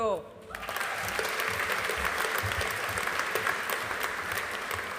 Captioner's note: audience applauding